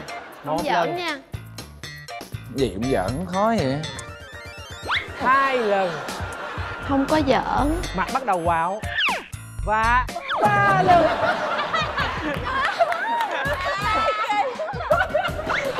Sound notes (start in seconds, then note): 10.4 laughing